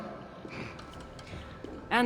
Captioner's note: laugh